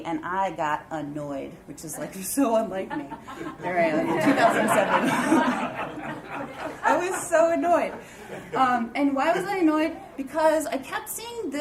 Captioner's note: knowing laughter